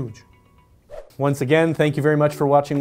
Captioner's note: whoosh